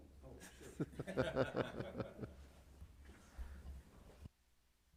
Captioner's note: members laughing